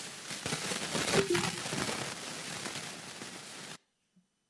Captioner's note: computer dinging